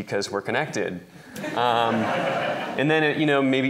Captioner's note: laughter